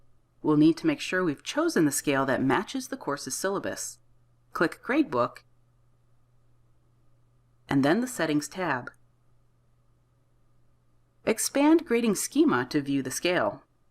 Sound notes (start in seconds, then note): 5.4 silence; 8.8 silence